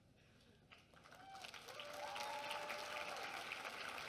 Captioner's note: applause and cheering